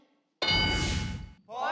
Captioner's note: ding